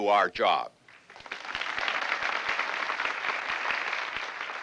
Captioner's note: applause